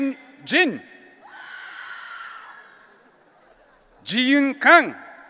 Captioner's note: audience cheering